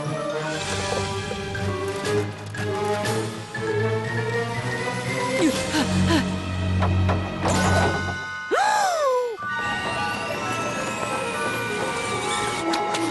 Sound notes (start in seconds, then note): 5.6 panting; 8.7 gasp